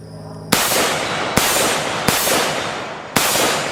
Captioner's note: gun firing